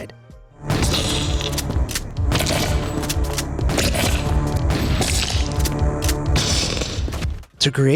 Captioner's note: gun fires, body splutters